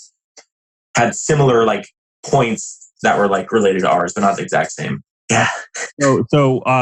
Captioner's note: laughs